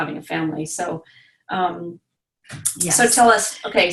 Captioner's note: stammering